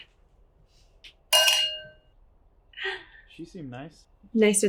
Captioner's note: glasses clink